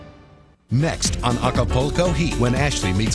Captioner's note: voiceover